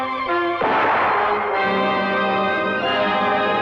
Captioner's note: gun blasting